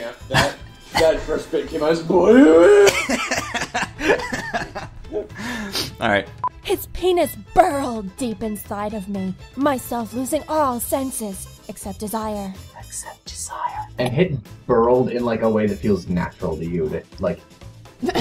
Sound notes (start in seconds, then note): 2.8 laughter; 13.0 whispering